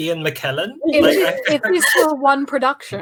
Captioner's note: laughter